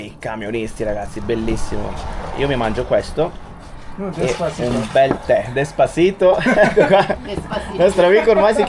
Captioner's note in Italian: risate